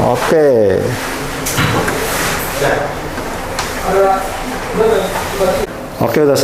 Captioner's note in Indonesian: suara mesin printer